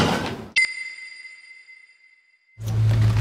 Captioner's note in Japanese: ピックアップ 効果音